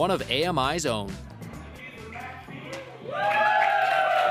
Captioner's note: audience chatter